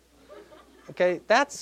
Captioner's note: audience laughing